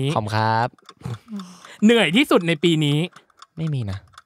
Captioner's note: laugh